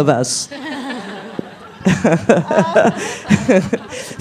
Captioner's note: Adèle and Noémie are crying with laughter; laughs